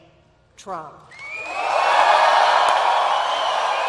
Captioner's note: applause